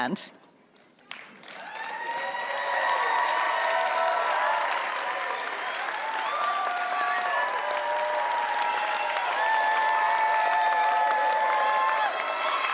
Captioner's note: clapping and cheering